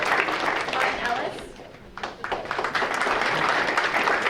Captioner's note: audience applauding